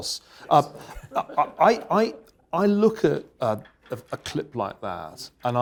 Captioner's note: laugh